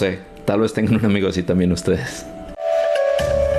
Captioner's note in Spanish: risas